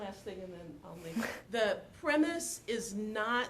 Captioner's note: chuckles